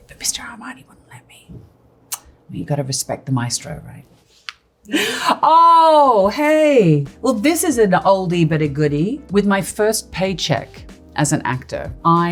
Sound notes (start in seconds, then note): 4.9 gasps